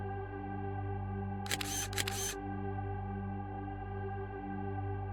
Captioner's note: shutter clicking